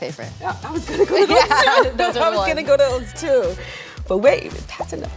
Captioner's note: laughs